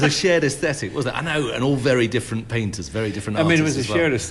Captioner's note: laughter